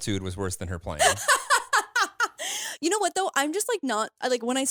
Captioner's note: laughs